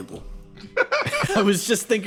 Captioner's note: laugh